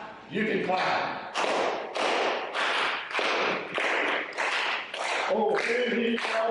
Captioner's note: rhythmic clapping